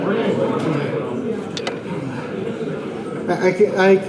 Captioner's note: audience indistinct chatter